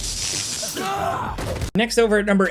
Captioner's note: character screams; attack hits